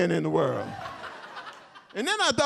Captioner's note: audience cheers